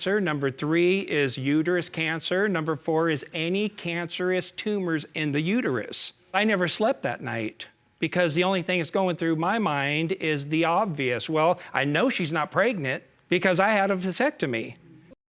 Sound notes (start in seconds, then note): none